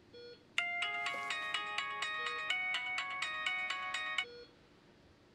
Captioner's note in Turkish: Telefon çalıyor